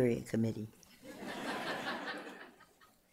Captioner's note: laughter